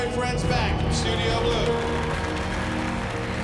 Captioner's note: applause